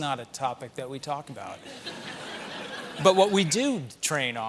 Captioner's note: laughter